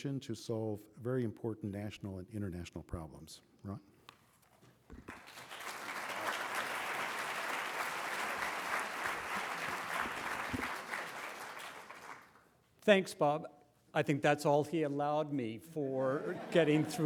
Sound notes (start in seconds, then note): 5.0 applause